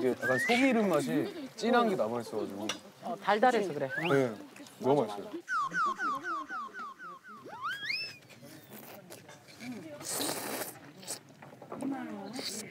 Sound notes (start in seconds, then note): 7.4 gobbles tteokbokki; 9.5 slurp